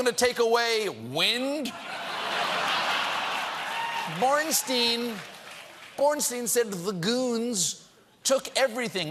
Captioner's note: laughter